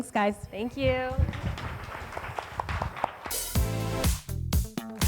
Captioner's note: group clapping